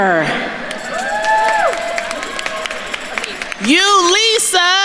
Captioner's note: attendees cheering and applauding